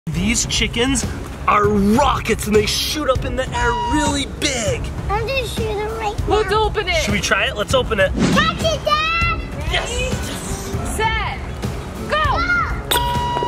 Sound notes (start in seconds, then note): 0.0 intense battle music; 7.9 whooshing sound; 12.9 high-pitched recorder sound